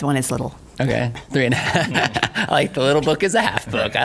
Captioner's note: laughs